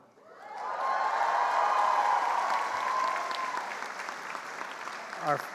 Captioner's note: attendees cheering and applauding